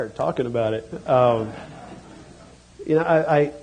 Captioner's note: laughter